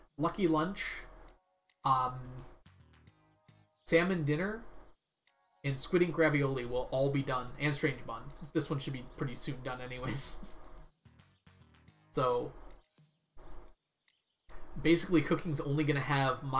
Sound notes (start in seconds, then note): 10.0 laughs